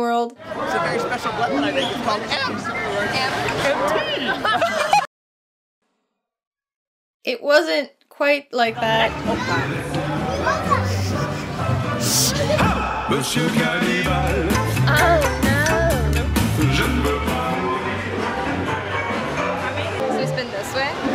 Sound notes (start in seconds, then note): 4.1 laughter; 5.0 silence